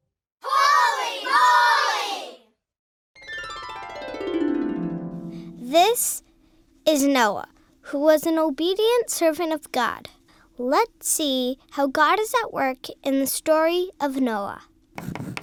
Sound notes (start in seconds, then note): 3.2 harp music; 5.6 voiceover